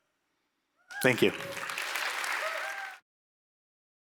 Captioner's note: applause